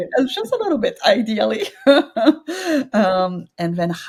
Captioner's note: chuckles